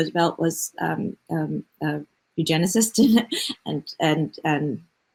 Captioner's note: laughs